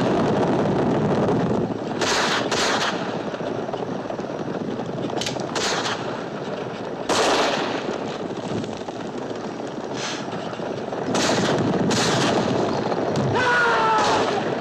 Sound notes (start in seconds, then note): 9.9 blows; 13.2 screams